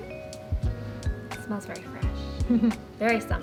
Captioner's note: giggling